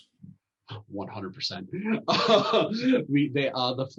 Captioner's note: laughter